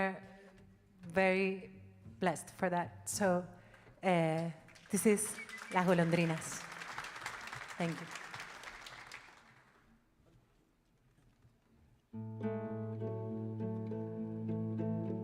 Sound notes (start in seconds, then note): 4.6 audience applauding; 12.2 gentle music